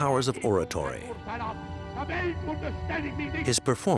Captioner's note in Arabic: الصوت المنطوق باللغة الألمانية